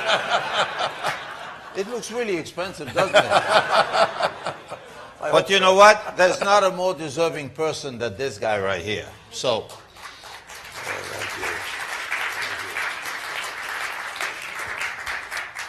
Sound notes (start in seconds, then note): 0.0 laughter; 9.6 applause